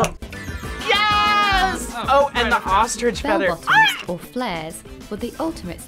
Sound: voice-over

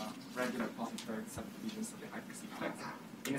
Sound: speaking faintly

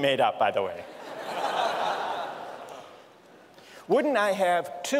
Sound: laughter

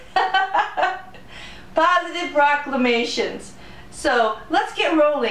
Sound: laughter

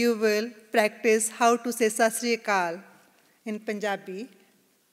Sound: non-English greeting

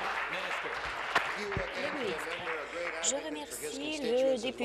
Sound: applause

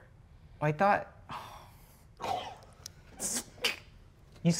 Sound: groans softly

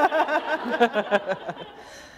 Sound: laughter

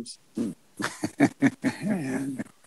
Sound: laughs

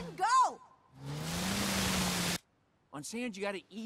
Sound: tires spinning

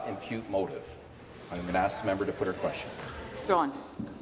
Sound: none

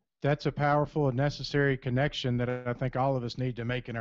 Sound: voiceover

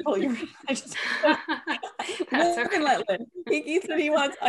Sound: laughing

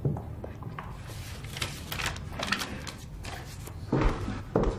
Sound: paper rustling

